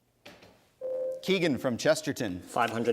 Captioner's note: ding